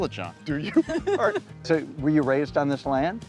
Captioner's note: laughing